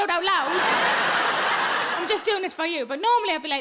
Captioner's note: audience laughing